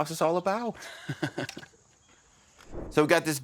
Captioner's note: laughs